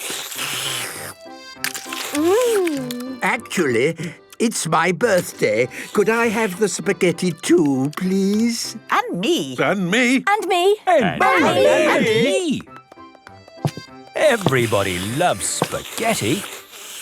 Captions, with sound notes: - (slurping) Mmmm! - Actually, it's my birthday. Could I have the spaghetti too, please? - (calling out in turn) And me! And me! And me...! - Everybody loves spaghetti.